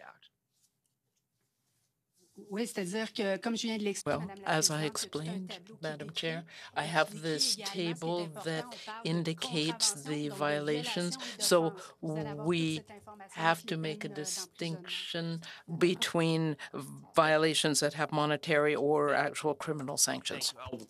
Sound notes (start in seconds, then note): 7.0 speaking French